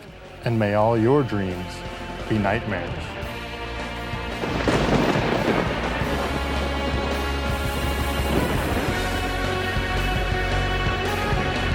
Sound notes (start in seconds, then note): 4.0 thunder rumbling; 4.6 dramatic music